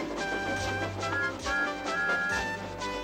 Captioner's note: tooting